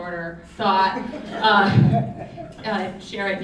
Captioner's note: audience laughing